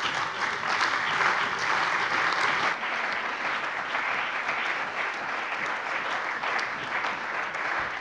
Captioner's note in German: Beifall bei der CDU und dem BÜNDNIS 90/DIE GRÜNEN